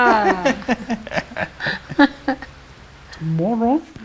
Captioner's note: laughing